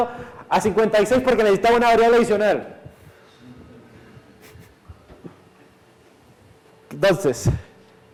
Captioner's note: class laughs